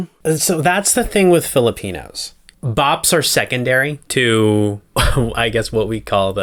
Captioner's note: laugh